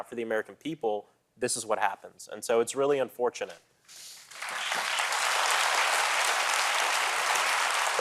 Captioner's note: applause